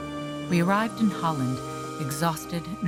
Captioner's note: voiceover